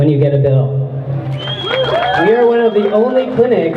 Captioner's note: crowd cheers